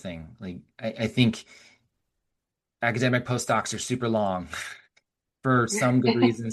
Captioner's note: scoffs